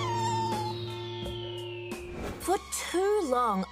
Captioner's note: whimpers